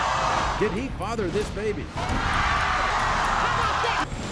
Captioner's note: crowd shouting